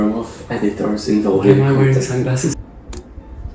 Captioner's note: click